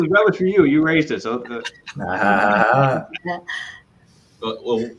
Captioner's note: laughter